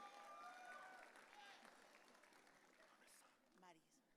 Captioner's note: audience cheering